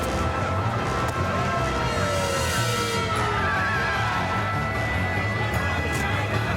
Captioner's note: gunfire and shouting; sirens wailing and tires screeching